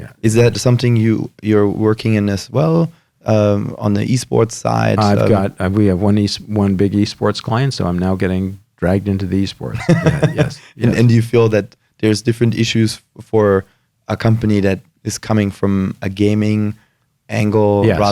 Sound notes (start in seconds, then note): 9.8 laughs